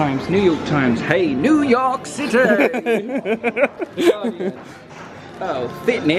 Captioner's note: laughs